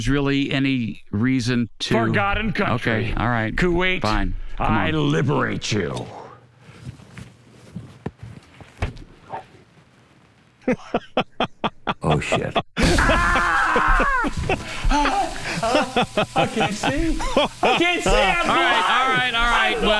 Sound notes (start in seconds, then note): 10.6 Sgt. Michaels laughs; 12.8 screams in pain